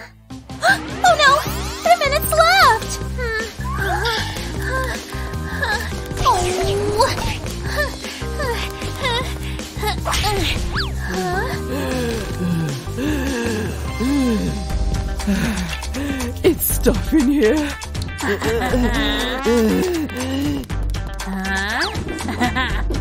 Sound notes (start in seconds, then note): 10.8 groans; 14.7 puffs